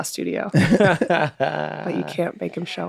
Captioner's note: hosts laughing softly